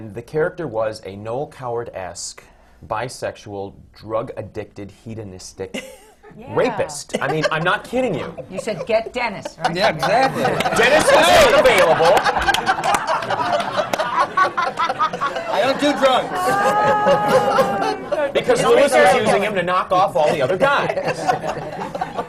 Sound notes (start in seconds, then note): 5.8 laughs; 12.1 laughter